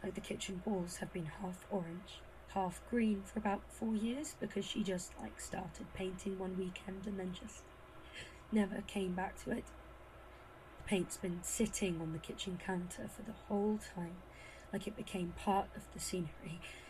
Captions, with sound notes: the kitchen walls have been half orange, half green for about four years, because she just like, started painting one weekend and then just never came back to it? (Breathless) The paint’s been sitting on the kitchen counter for that whole time, like it became part of the scenery.